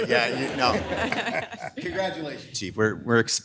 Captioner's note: participants laughing